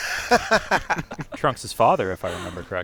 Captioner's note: laughter